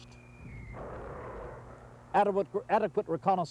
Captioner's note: mortar fire booming